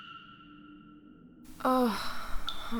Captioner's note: Lunis groans